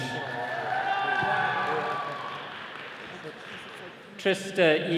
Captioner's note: attendees cheering